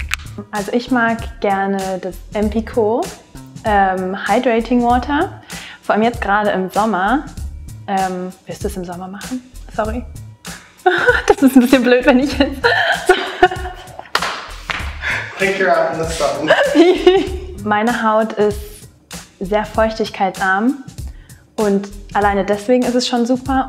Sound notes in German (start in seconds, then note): 10.8 lachen